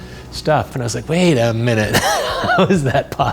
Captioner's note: laughs